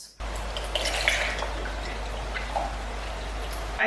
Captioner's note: oat milk sloshing into container